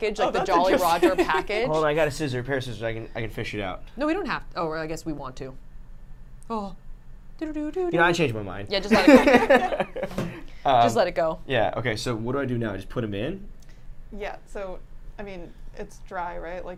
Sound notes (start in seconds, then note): 0.1 laughs; 6.7 hums; 8.9 group laughs